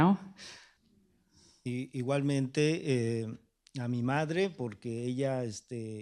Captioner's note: speaking spanish